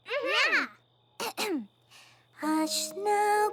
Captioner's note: clears throat